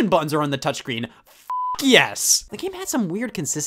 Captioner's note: beeps